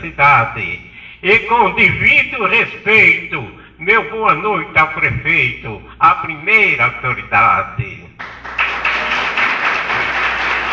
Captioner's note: aplausos